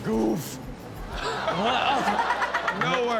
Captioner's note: Chanel chuckles; all gasp